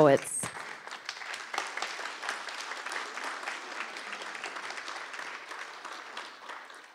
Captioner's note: applause